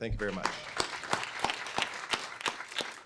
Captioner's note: applause